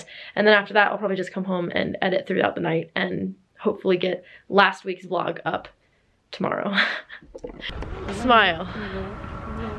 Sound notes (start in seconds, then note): 7.4 nearby people chatting indistinctly